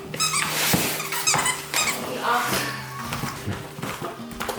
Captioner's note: squeaky toy